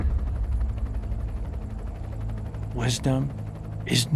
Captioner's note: helicopter chuffing